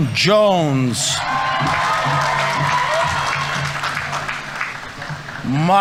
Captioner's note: audience members cheering; audience applauding